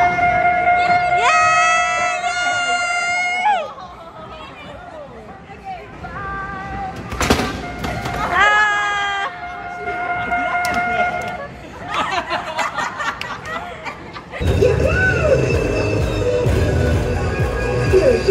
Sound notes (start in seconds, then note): 10.8 all laughing